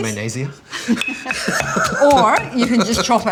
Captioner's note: laughs